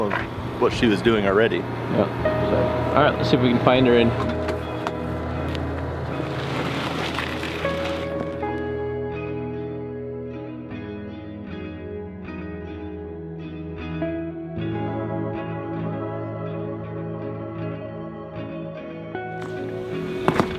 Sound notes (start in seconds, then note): 6.8 boat scraping; 8.6 contemplative music